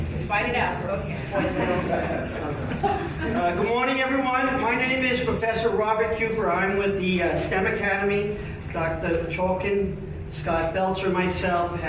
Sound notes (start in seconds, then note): 1.6 chattering faintly